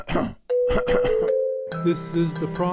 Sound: throat clearing

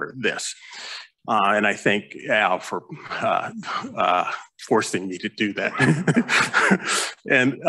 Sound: laughs

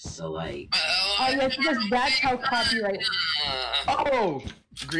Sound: audible unhappiness

